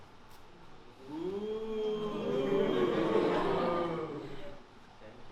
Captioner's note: the audience cheers